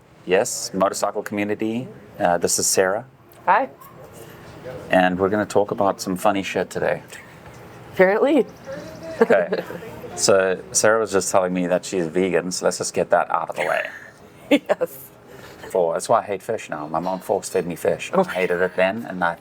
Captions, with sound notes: - Yes, motorcycle community. This is Sarah. - Hi. - And we're gonna talk about some funny shit today. - Apparently. (laughing) - So Sarah was just telling me that she's vegan, so let's just get that out of the way. - Yes. - That's why I hate fish now. My mom forced me to feed me fish. I hated it then.